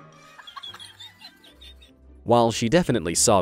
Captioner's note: laughing